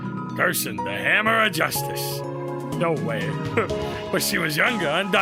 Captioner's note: laughs